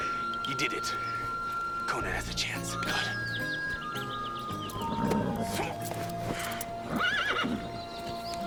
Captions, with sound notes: Conan has a chance, come on. (horse snorts) (horse whinnies)